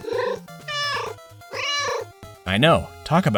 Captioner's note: meow